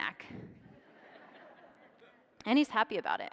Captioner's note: audience laughs